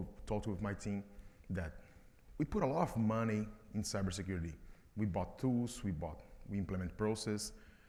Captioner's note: none